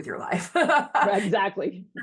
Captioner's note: laughing